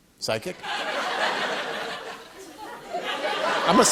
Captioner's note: laughter